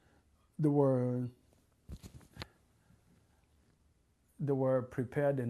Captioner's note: pauses for 3 seconds; pauses for 3 seconds